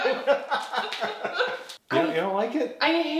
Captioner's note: husband laughing